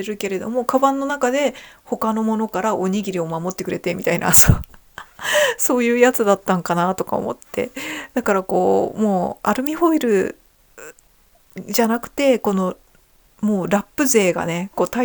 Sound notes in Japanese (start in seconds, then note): 5.0 笑い; 5.1 息をのむ音